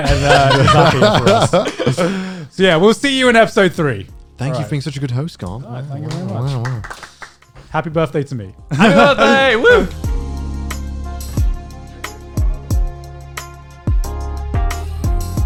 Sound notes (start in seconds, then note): 0.0 guys laughing; 9.0 speaking Japanese; 11.2 chill music